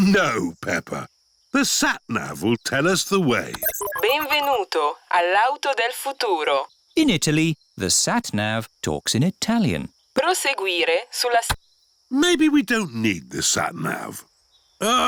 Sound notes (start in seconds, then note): 0.2 chuckles; 3.3 beeps; 6.3 speaks italian; 10.5 sat nav talks in italian